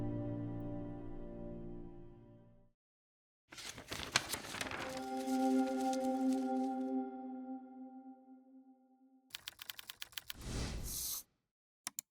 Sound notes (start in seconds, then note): 3.5 papers rustling; 3.6 soft music; 9.4 text tapping and swooshing